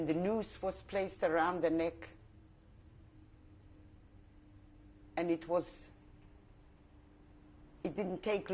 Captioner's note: pauses for 3 seconds